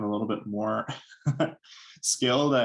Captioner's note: chuckle